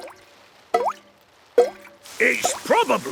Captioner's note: water dripping